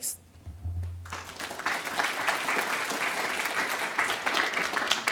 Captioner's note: applause